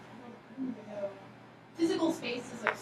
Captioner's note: speaking softly